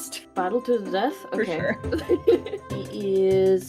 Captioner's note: laughing